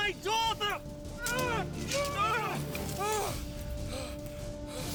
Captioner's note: grunting, fighting